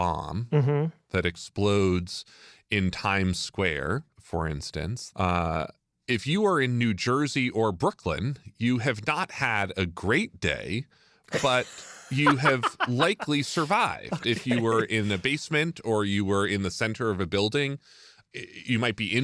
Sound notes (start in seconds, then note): 11.3 laughs